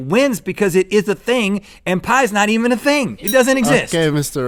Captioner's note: bell ding